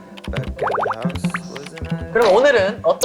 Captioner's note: typing